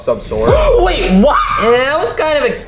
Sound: Luigi gasping

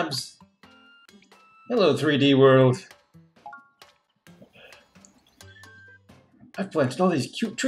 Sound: sighs

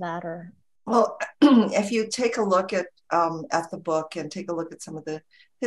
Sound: clears throat

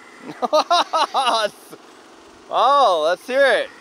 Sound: laughs

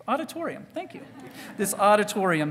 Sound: audience titters

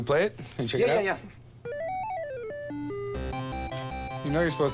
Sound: game beeping

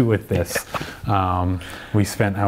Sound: laughs

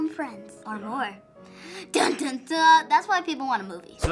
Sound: dramatically

